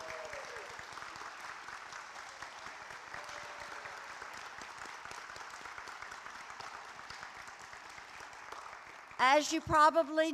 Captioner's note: applause